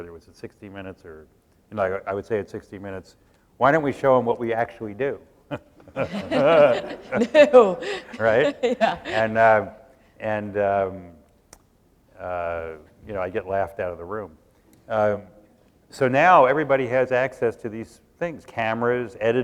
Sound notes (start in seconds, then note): 5.5 laughter; 5.5 laughs